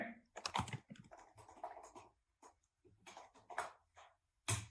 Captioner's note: keyboard clicking